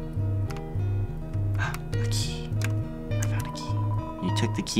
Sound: gasping

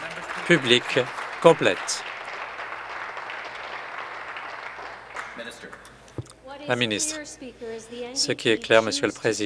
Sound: applause

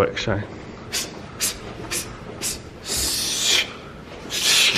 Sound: hisses

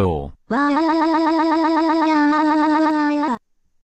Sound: crying like a female Japanese Voice

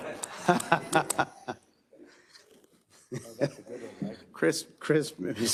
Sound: all laughing

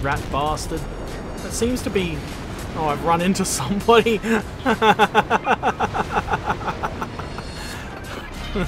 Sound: laughter

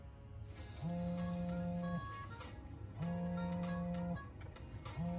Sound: mobile buzzes

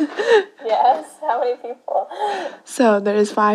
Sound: laughs

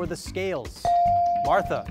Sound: device dings

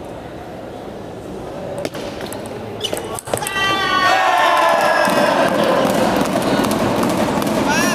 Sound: applause

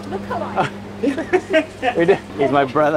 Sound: laughing

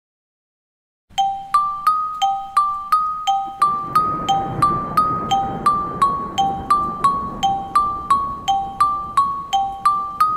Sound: horror sound

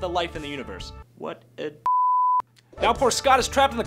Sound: beep

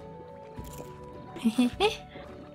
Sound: giggle

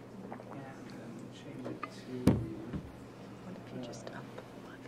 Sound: background chatter

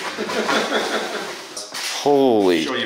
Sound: laughs

